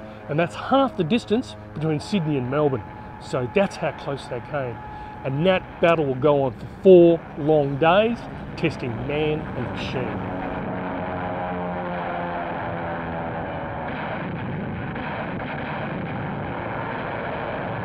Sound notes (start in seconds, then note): 10.3 planes overhead; 14.4 ship cannons firing; 17.6 anti-aircraft artilery firing